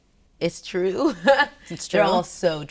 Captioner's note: laughs